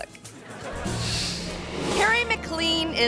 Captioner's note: audience laughing